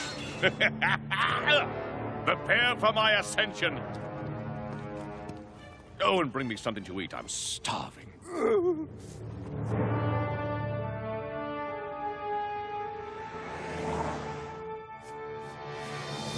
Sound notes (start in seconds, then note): 0.2 laughing; 8.2 groaning